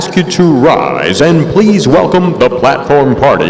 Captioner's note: none